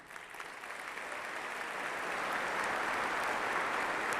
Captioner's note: applause